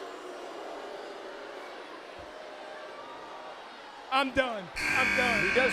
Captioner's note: crowd cheering